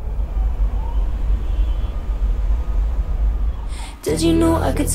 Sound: sirens in distance

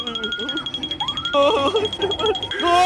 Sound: sobs

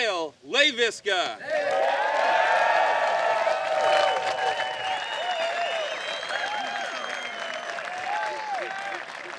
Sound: applause

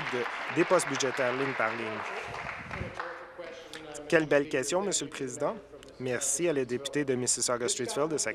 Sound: applause

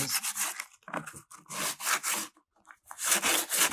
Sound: scraping

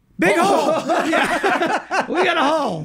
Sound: all laughing

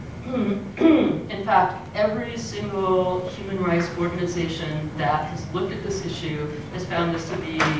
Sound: cough

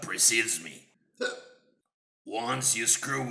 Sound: hiccup

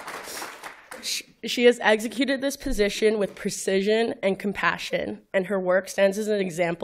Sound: applause

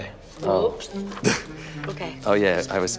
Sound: chuckles

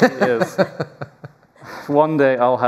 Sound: laughter

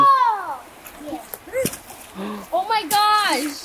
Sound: water splashing

